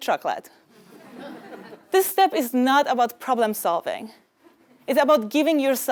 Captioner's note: laugh